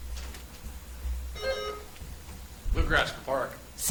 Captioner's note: buzzer chimes